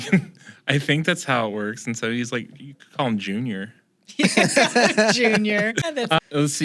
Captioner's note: laughter